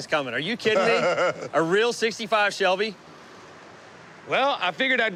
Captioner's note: laughs